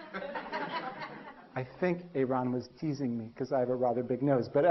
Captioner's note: 笑聲; Laughter